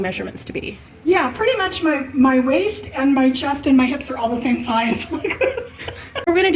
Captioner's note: laugh